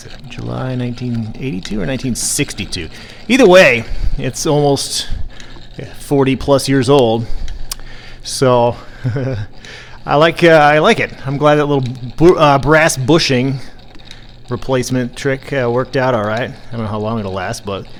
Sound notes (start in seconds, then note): 8.8 chuckles